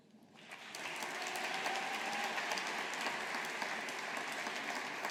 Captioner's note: audience applauding